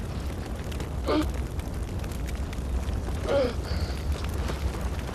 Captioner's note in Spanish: Quejidos